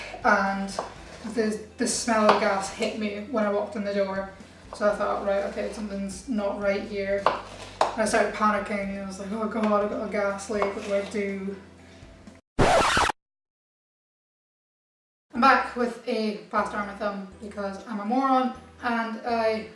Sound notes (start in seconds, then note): 11.1 over dramatic; 12.6 record scratching sound